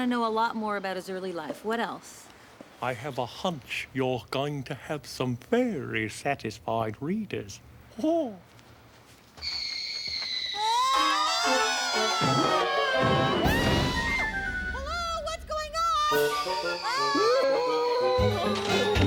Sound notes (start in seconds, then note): 8.9 whizzing; 16.7 screaming